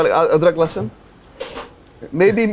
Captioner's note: speaks in foreign language